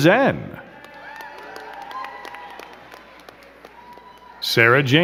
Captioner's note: crowd cheering and clapping